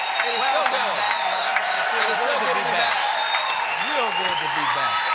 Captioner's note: cheers and applause